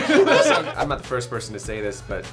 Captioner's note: laughs